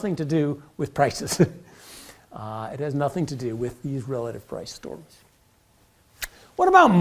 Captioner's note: laugh